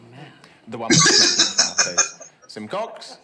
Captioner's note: laughing